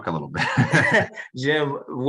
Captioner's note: laughter